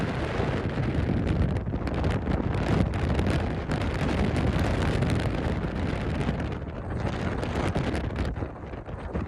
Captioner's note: wind